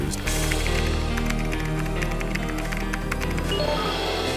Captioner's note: typing